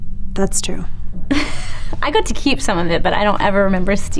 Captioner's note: chuckles